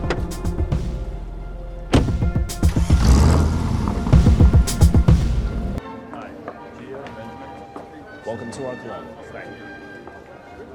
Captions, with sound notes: (engine rumbles) (classical music) - Hi, Benjamin. Welcome to our club. - Thank you.